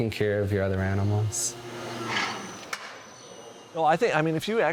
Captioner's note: machine roaring